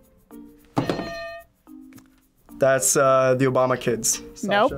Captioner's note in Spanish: suena la campana